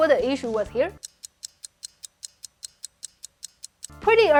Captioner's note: timer ticking